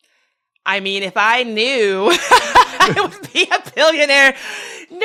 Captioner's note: laugh